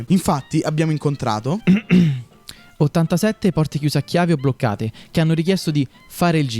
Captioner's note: clears throat